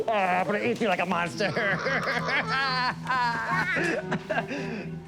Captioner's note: laughing